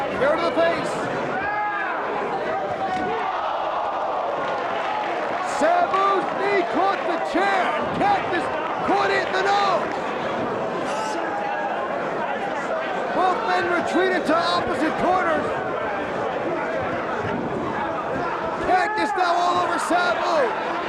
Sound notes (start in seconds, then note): 3.1 spectators exclaiming; 4.7 spectators applauding